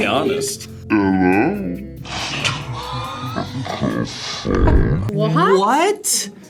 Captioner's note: laughs